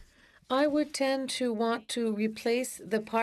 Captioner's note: speaking FRENCH